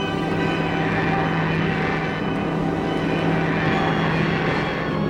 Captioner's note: plane engines roaring